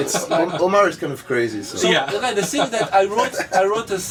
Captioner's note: laughs